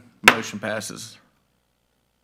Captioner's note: gavel banging